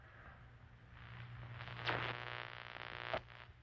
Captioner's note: static; radio tuning